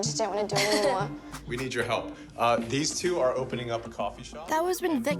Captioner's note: chuckles